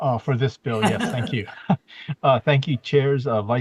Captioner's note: chuckles